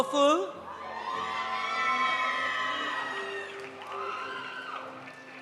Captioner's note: audience cheering; audience applauding